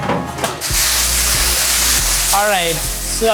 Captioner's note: steam whooshing